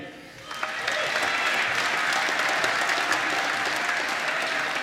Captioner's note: applause